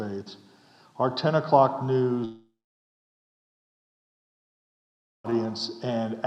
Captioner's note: audio goes off